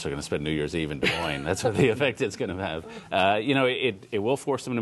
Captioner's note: laughter